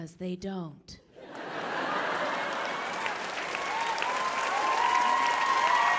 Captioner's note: audience laughing and clapping